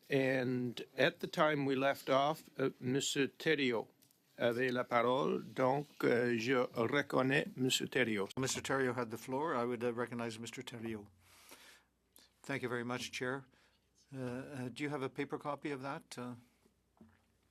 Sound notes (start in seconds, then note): 12.0 speaking French